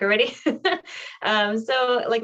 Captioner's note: laughter